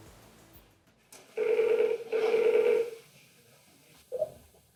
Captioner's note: phone ringing